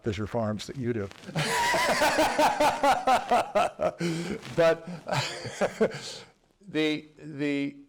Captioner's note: laugh